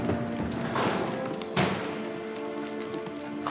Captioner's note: door slams